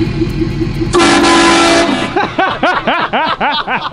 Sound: train horn blows; laughing

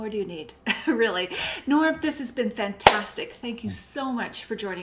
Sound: claps

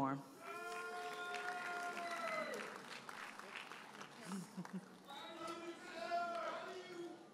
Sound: audience cheers and applauds

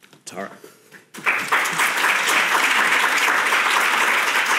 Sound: audience applauding

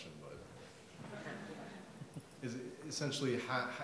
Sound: audience laughs

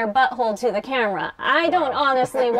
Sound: sounds of agreement and laughter

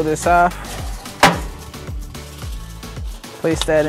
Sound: spatula clangs against grill

